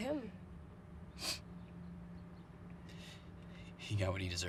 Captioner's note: Tyler sniffs